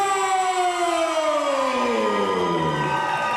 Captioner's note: crowd cheers